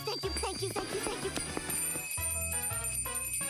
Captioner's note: bell ringing